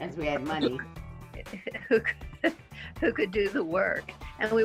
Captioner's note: laughing